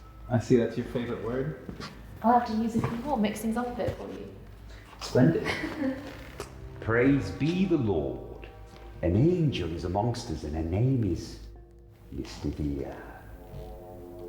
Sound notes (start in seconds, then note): 5.2 Charlotte laughs